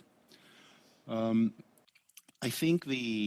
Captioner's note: speaking French